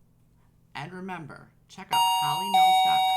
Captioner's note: dinging